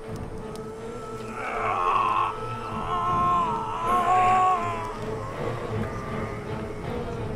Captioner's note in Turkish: Müzik - Gerilim; Bağırma sesi